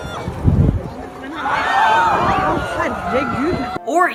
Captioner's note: clip: crowd screams; clip: background chatter and shouting